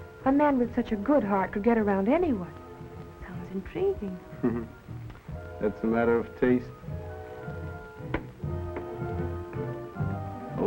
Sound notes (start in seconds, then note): 4.4 chuckles; 8.5 dramatic music